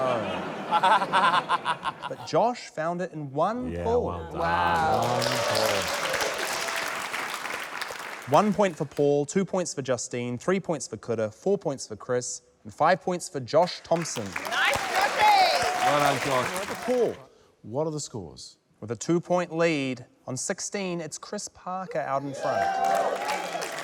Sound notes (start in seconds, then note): 0.0 laughs; 4.2 cheering, applause; 13.9 cheering, applause